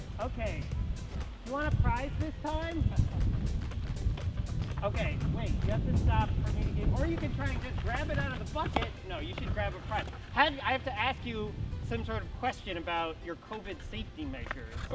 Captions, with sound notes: Okay. You want a prize this time? (skateboarder laughing) Okay, wait. You have to stop for me to, or you can try and grab it out of the bucket. No, you should grab a prize. I have to ask you some sort of question about your COVID safety measures.